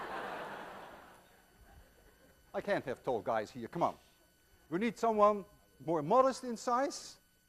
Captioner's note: class laughs